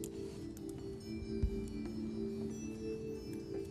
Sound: whispering

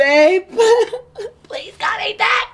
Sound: cries

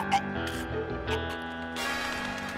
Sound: gagging

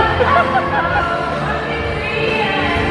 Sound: laughing; upbeat thumping music

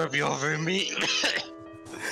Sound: cough

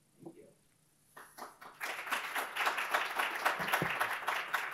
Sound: audience applauding

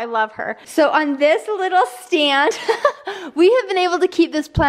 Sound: laughs

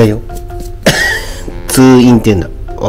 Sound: laughs

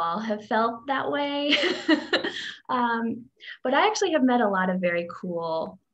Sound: laughs

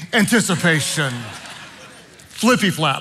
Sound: congregation laughing

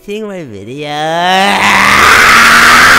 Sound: screaming

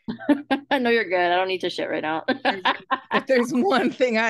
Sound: laughs

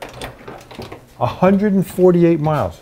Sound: truck door opening

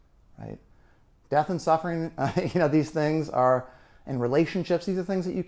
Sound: laugh

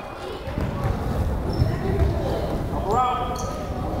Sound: crowd chattering

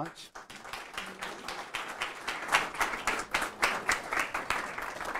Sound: audience applauds

